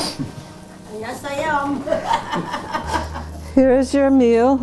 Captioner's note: chuckling